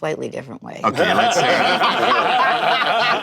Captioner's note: laughter